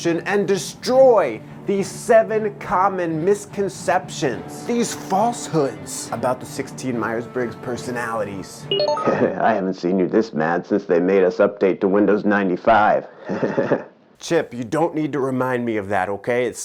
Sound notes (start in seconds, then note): 8.7 computer bleeping; 8.9 chuckling; 13.1 chuckling